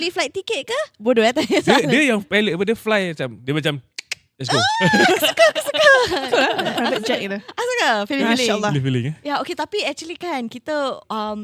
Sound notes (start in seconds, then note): 4.0 clicks tongue